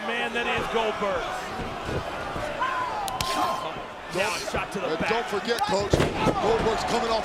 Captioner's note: applause